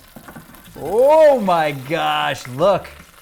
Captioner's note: wings sizzling